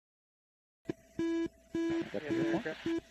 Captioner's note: beeping